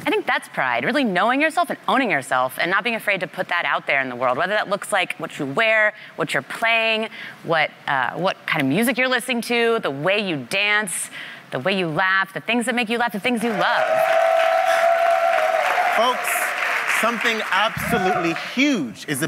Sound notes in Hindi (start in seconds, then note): 13.4 वाहवाही